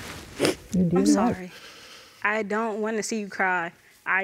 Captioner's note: sobbing